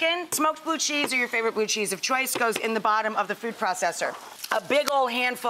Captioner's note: none